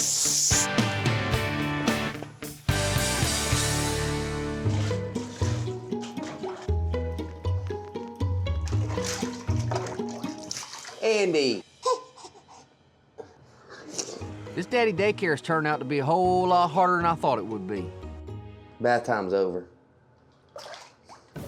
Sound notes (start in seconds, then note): 8.6 splash; 13.2 giggling